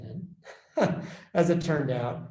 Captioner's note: laughs